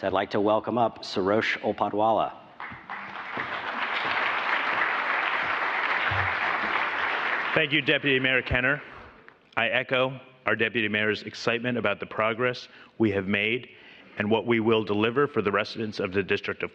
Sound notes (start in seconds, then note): 2.5 applause